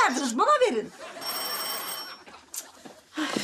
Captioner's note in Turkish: Kapı zili sesi